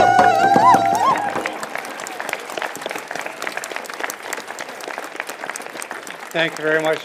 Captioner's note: applause